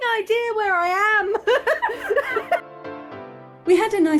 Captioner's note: laughing